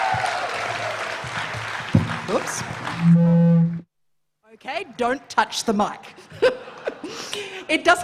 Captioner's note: cheering and applause